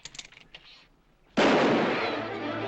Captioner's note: gunshot